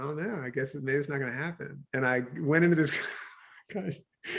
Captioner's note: chuckles